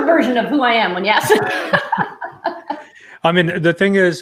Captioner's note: laughs